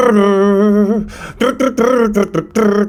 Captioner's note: imitates music